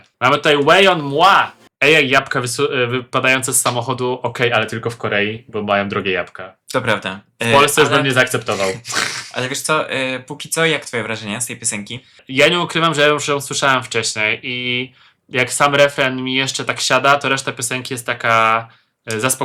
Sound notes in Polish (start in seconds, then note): 8.5 parsknięcie